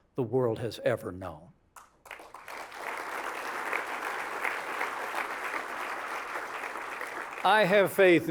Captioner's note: applause